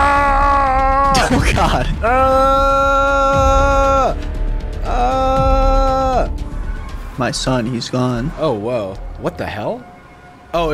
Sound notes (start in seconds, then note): 0.1 shouting; 3.3 shouting